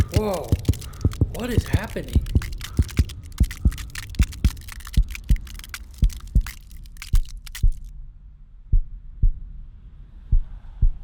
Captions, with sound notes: Woah, what is happening? [Ice cracking] [Heart beat slowing] [Ice cracking] [Heart beating slowly]